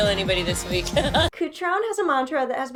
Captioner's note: laughs